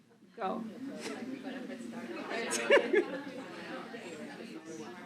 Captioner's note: chatter